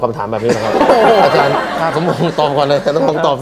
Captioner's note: laughter